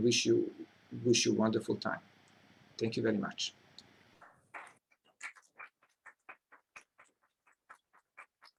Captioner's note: applause